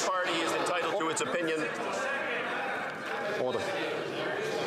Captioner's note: some Applause